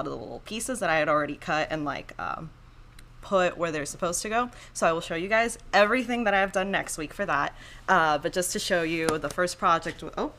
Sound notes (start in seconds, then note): none